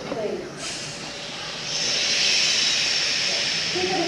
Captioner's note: choir shushing